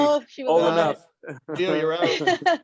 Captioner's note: laughs